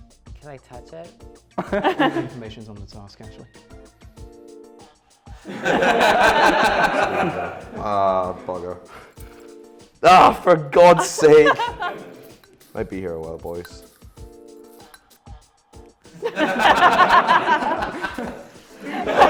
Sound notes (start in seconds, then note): 1.6 laughter; 5.4 laughter; 11.0 laughter; 16.2 laughter; 19.0 louder laughter and light applause